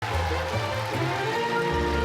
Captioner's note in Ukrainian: оплески